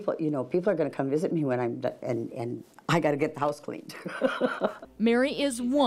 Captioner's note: laughs